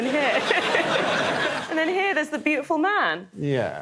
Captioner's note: laughs